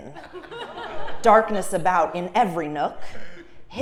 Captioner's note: laugh